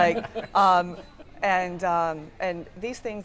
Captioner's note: laughing